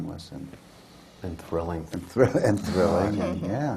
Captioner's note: laughter